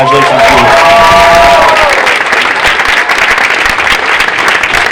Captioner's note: audience cheering